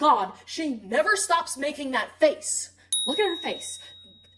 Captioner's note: ding